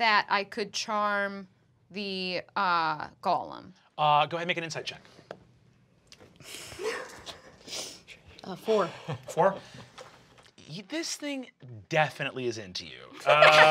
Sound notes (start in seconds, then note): 6.6 snickering